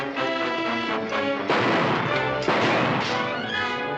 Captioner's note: gunshots